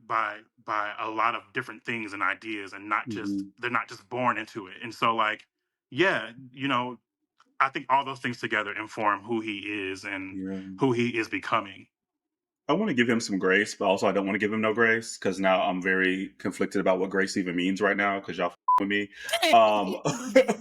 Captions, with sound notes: by a lot of different things and ideas and they're not just born into it. And so like, yeah, I think all those things together inform who he is and who he is becoming. I wanna give him some grace, but also I don't wanna give him no grace because now I'm very conflicted about what grace even means right now because y'all (beep) with me.